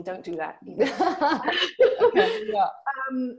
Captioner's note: both laughing